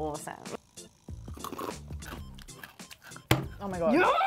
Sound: snack crunching

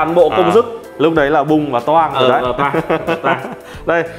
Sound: laughing

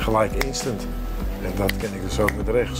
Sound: snaps fingers

